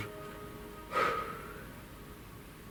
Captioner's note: breathes